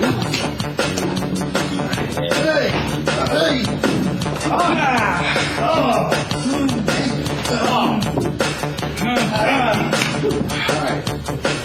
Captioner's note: grunting; grunting